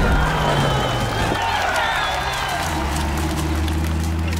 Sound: crowd cheering

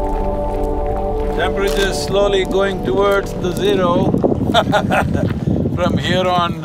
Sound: laughs

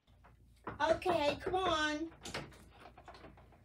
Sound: knocking

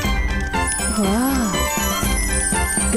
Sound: tinkling

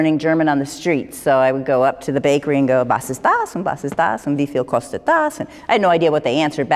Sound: speaking german

